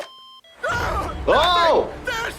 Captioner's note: Grandpa screaming